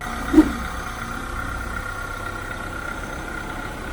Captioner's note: engine whirring